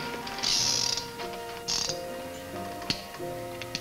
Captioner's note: gun clicks